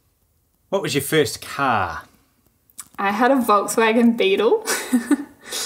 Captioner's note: laughing